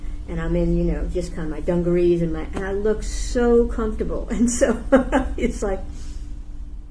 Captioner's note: laughs